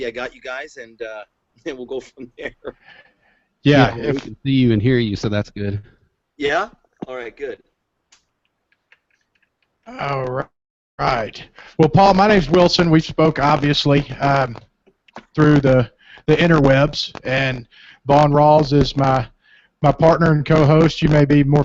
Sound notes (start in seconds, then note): 1.8 laughs